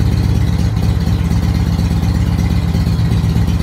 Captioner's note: engine returns to previous idle